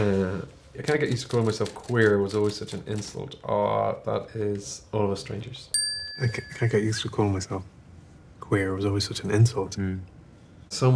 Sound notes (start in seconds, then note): 5.7 bell chimes